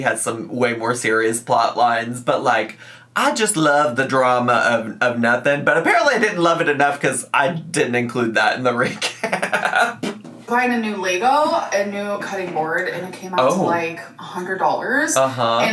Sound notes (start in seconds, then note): 8.8 giggles